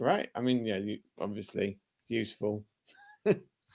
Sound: laughter

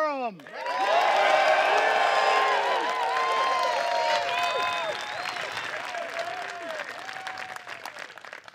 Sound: applause

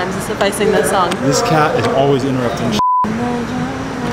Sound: beep

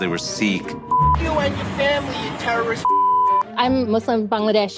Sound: beep

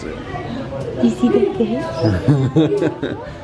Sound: gasps; chuckles

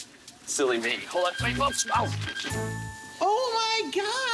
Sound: beeping

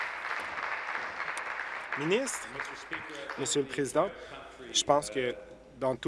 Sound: applause

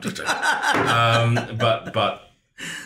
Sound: laughs hysterically

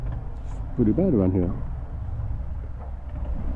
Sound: none

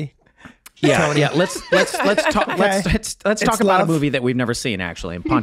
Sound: everyone laughing

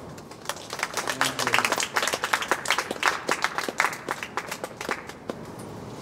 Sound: clapping

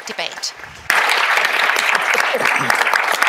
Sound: applause

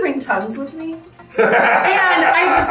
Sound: laughs

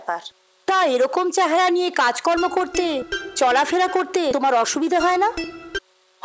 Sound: phone rings

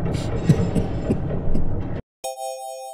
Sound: coughing fit

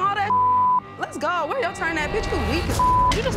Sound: beep

